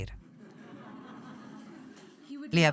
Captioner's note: audience chuckles